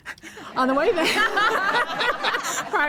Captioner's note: laughter